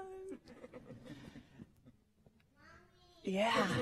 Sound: laughter

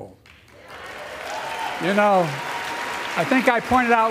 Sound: applause

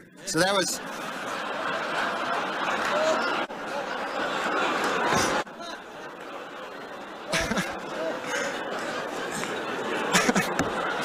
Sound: laughter

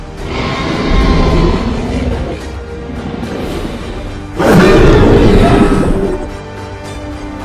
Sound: growling; roaring

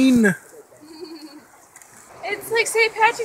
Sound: laughs

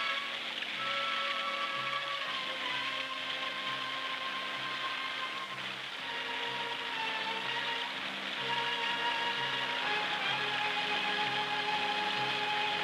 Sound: water rushing

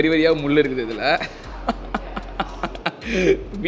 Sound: laughs as he describes the meat

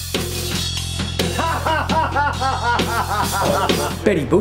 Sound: man laughing loudly

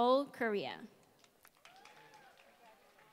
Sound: applause

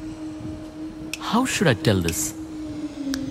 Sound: snaps finger

